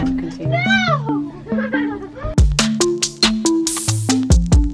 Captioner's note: laughs; groovy instrumental music